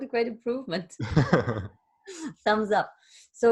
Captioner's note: laughter